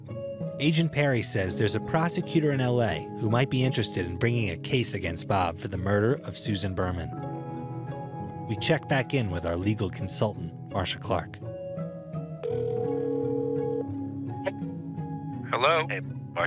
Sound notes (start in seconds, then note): 12.4 phone rings